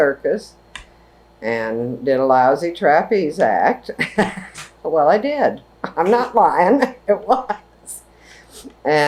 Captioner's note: laughs